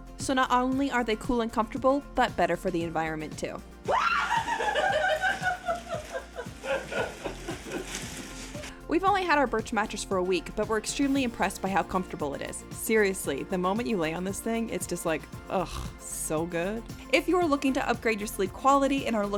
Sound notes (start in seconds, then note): 3.8 shouting in excitement; 5.7 laughing